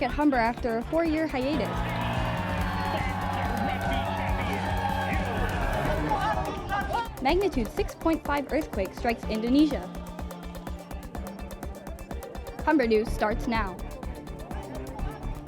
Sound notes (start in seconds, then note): 1.4 cheering